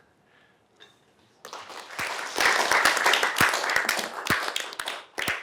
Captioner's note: applause